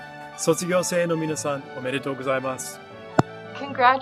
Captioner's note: SPEAKS Japanese